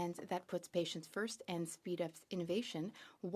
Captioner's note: speaking French